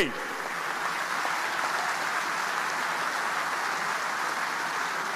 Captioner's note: audience applauding